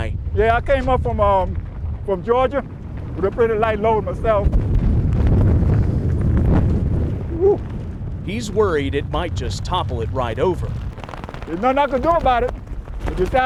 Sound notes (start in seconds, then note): 4.8 wind whistling